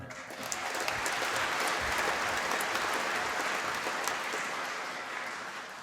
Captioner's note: applause